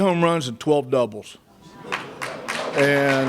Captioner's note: applause